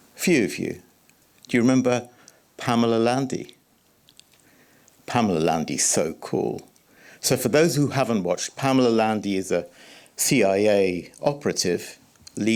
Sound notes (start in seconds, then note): none